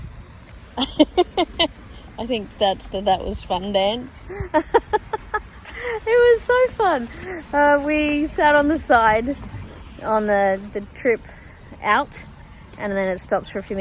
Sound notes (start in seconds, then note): 0.8 laughs; 4.9 laughs more